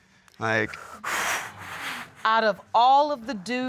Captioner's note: sighs